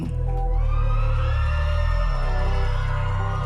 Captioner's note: cheering shouts